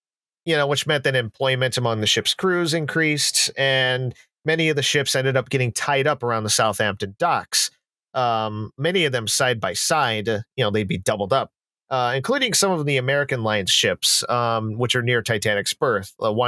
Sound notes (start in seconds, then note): none